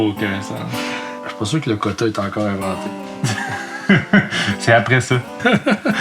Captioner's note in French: rires